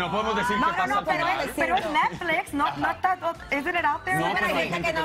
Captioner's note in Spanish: risas